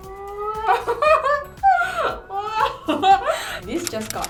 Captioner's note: nervous laughter